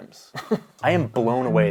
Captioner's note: chuckling